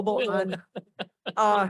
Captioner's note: laughter